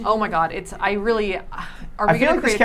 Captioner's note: sighs